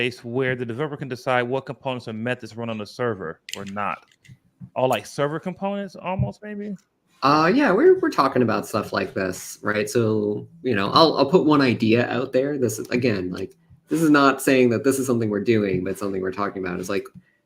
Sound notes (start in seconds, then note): none